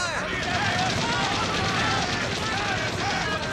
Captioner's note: soldiers clammoring